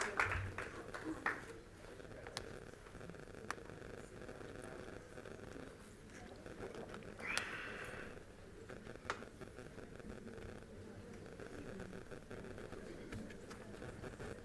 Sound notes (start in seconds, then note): 0.0 applause; 0.0 group chatter